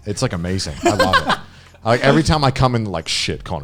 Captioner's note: laughing